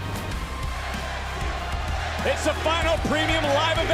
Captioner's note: crowd chants "nxt"